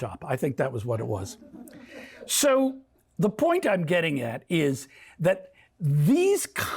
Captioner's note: laughter